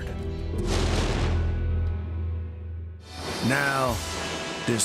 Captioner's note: flames erupt